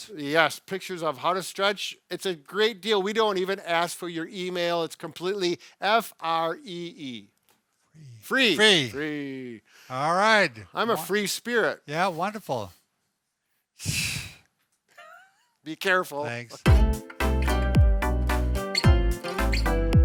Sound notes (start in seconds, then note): 14.9 chuckling; 16.6 upbeat music